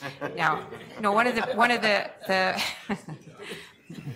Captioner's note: laughs; laughter